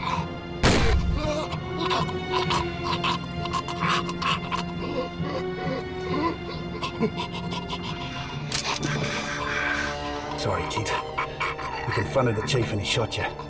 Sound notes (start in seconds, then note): 1.9 gurgling and gasping